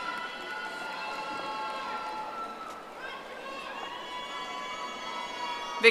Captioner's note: audience applauding